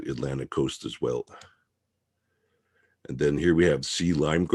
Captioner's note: mouse clicking